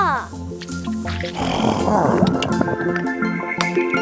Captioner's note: upbeat music; Big Lizard trilling; upbeat music